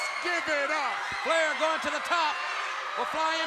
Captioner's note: crowd clamoring